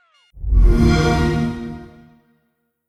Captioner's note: xbox sound